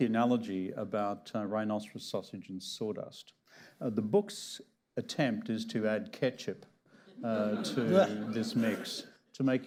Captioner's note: laughter